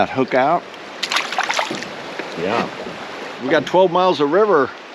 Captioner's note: fish splashing